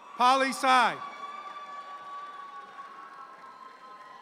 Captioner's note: audience cheering